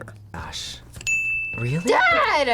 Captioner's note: bell rings